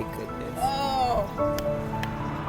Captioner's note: moans; upbeat music